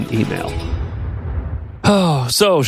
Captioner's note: air whooshing